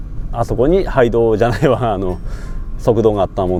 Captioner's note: laughs